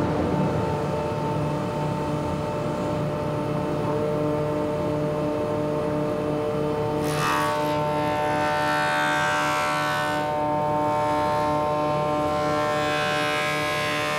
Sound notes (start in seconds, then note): 6.9 loud whirring